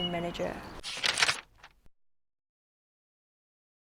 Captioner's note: paper crumpling